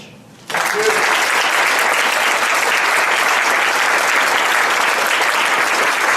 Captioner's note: audience applauds, cheers